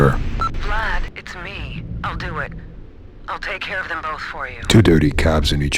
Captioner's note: voicemail beep